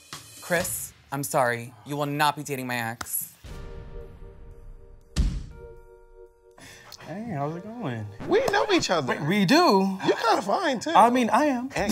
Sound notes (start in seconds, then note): 3.2 bluesy music; 3.2 claps